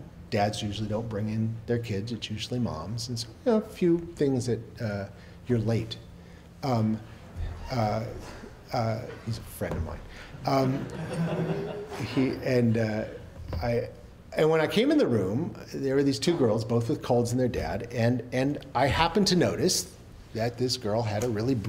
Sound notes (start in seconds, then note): 10.5 laughter